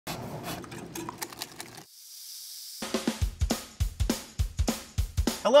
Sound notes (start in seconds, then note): 1.0 batter sizzles; 1.1 whisk tapping; 2.8 upbeat music